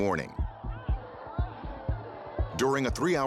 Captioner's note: crowd clamoring